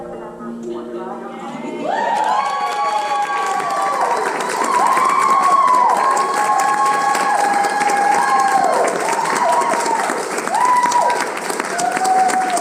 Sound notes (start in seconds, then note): 2.1 applause